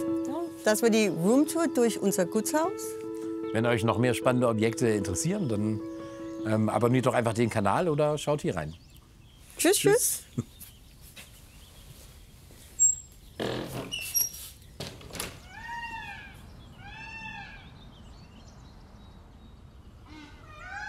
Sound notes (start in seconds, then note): 13.3 creaking; 15.3 peacock call, birdsong